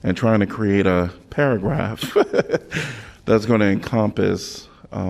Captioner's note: laughter